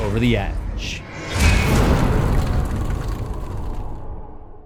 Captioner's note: impact